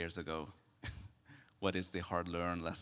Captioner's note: chuckles